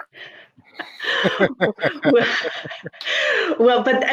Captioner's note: laughing